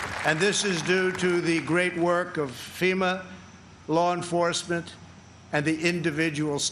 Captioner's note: applause